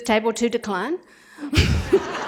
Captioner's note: laughter